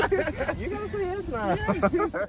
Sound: both laugh

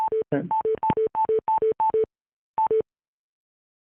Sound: beeping

